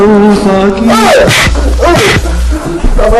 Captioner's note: grunting